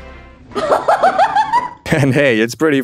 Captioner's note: laughter